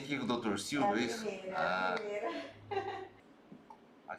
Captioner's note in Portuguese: risos